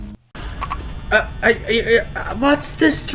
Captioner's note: confused noises